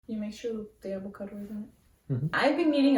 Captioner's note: mhhmm